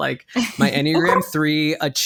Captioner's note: laughs